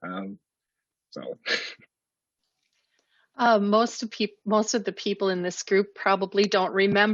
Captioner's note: laughs